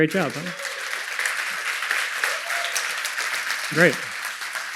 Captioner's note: applause